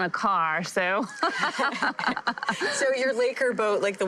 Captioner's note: both laugh